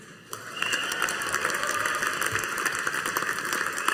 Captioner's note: audience applauding